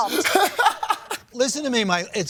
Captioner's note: laughs